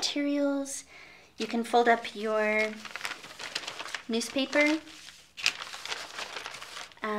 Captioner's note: rustles